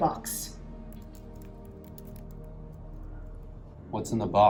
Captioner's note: keyboard keys clicking